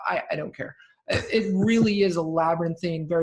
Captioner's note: laughing